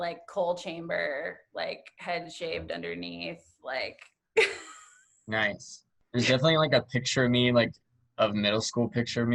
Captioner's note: laughter